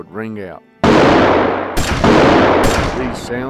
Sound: gun shooting

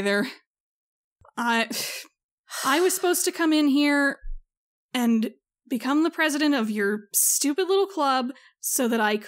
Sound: sigh

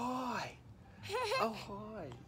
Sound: laughing

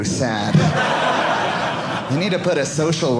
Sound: audience laughing

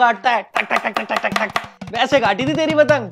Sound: choping

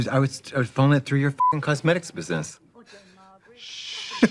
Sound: beep

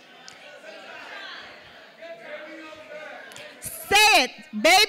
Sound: audience shouting

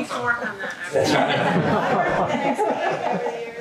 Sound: laughing

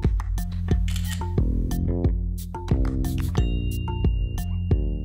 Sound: camera lens clicking

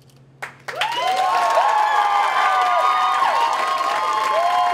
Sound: applause

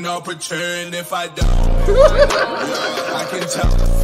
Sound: laughs

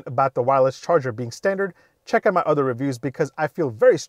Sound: none

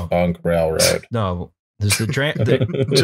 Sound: flatly; laughter

